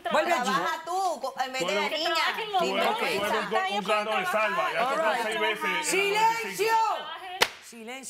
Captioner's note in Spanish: Hablan al unísono